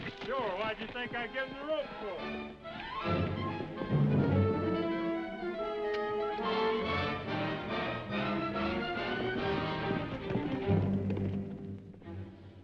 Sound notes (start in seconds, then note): 3.0 dramatic music; 5.9 horse hooves clopping; 8.9 dramatic music